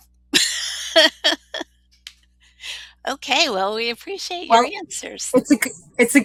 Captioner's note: laughs